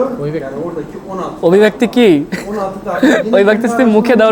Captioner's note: chuckling